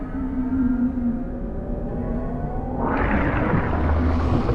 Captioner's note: mechanical whirring